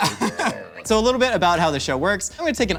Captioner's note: laughs